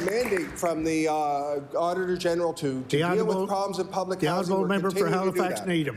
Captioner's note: applause